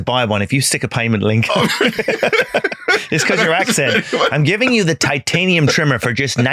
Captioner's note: laughing